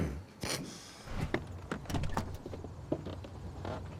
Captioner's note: Dale scoffs